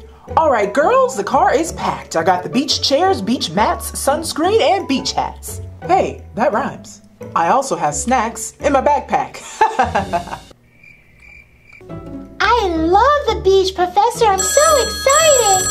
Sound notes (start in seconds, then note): 9.4 professor laughing; 10.6 crickets chirping